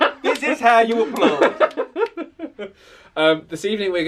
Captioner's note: laughing